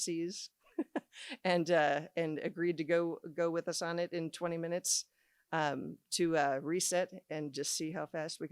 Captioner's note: laughs